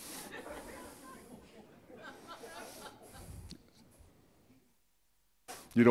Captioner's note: audience laughing